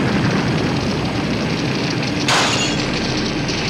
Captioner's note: explosion booming; fire crackling; glass shattering